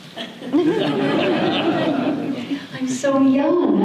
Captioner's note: audience laughter